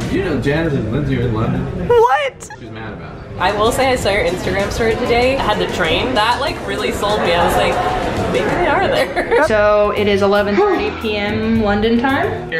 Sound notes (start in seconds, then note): 7.2 laughs